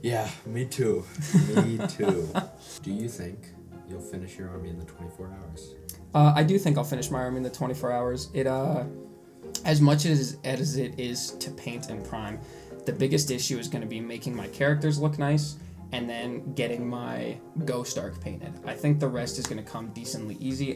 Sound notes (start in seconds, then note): 5.9 smacks lips; 8.9 smacks lips